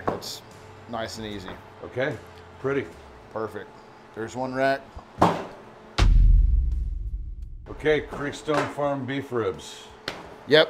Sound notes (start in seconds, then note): 6.0 rack thuds